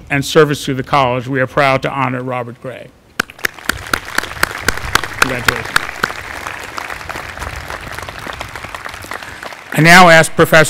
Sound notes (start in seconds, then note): 3.2 applause